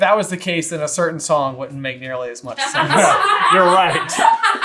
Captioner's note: absolutely loses it laughing; laughing her head off